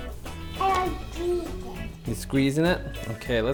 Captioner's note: little boy murmurs